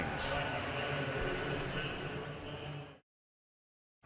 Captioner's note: pa announcement